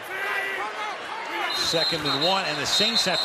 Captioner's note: whistles